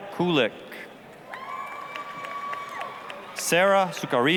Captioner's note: applause, cheering